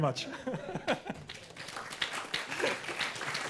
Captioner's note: applause